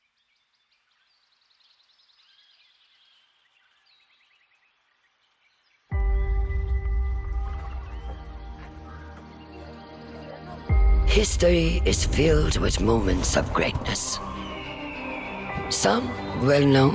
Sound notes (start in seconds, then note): 1.7 birds chirping; 14.8 eagle cries